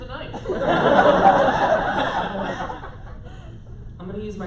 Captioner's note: laughter